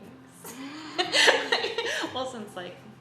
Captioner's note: gasps